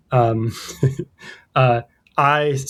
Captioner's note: uh; laughter